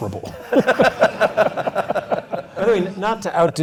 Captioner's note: laugh